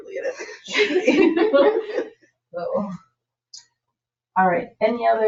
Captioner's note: people chuckle